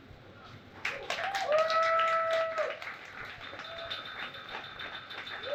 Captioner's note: audience applauds and cheers